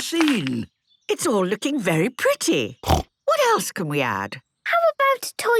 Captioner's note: snorting